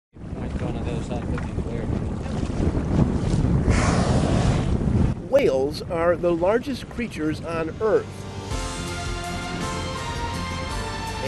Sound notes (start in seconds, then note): 3.5 forceful blow of air; 8.3 light music